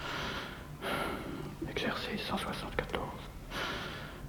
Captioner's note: speaking french